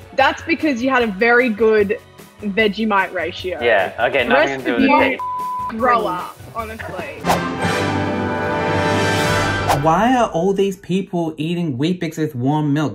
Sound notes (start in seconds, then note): 4.9 beep; 7.7 upbeat music